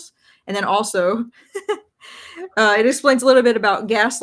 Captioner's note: laughs